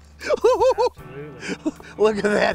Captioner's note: laughing